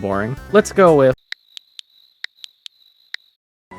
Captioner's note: Nintendo Switch typing noise